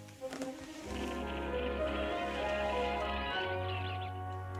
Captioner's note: birds chirping